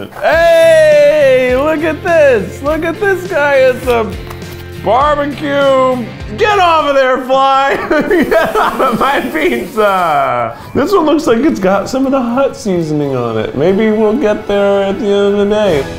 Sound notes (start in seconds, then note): 7.6 laughs